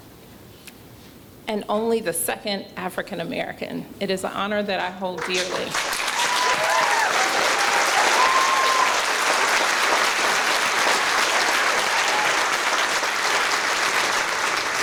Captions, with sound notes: --and only the second African-American. It is an honor that I hold dearly. [CHEERING]